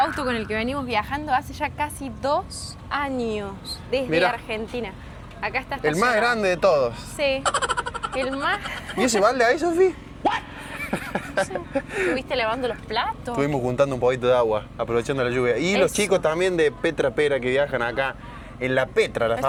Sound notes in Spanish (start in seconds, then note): 10.4 risas